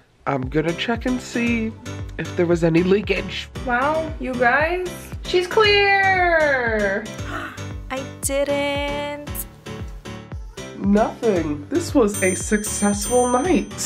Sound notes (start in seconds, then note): 7.6 gasp; 9.6 fun, upbeat music; 13.0 checks dinging